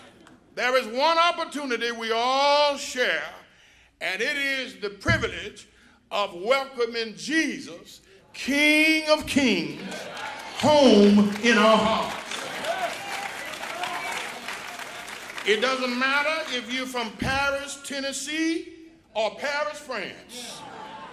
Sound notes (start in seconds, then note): 14.6 applause